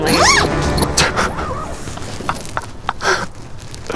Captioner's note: laughing